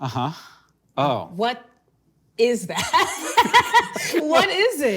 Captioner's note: laughing